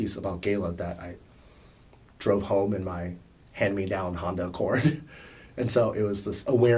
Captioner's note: laughs